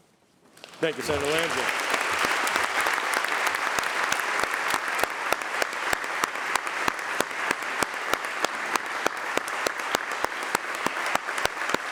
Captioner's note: applause